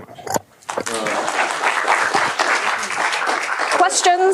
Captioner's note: applause